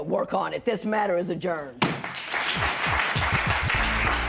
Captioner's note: applause